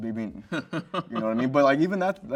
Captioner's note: host laughs